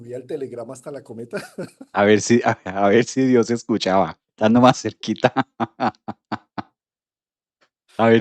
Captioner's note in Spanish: risas; risas